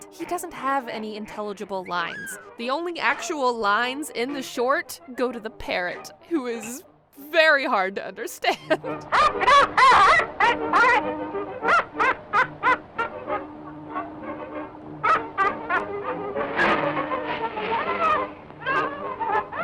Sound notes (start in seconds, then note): 8.2 laughs; 12.8 laughs; 13.6 playful music; 15.0 laughing; 16.3 crashing noise